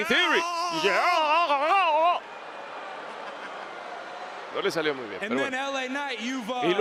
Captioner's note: laugh